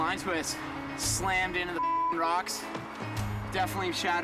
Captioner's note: beep